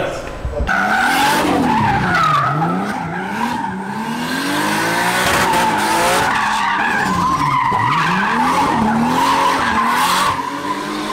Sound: tires screeching

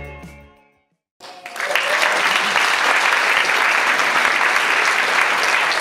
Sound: audience applauds

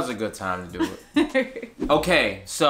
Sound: laughing

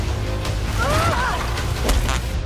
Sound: grunts; fart noise

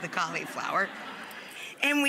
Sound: audience laughs

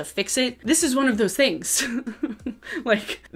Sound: laughs

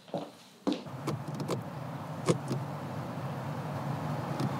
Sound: fingers tapping

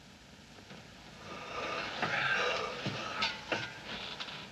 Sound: both Yawning

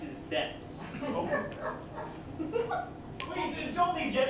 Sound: laughter

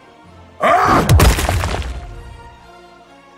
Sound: crunch

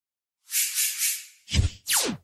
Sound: woosh Woosh Woosh; zap

